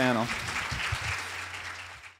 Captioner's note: applause